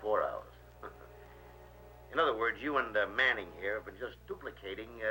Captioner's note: chuckles